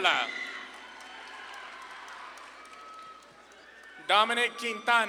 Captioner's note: audience claps and cheers